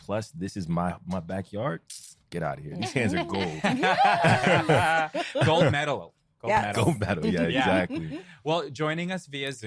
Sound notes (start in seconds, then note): 3.4 laughter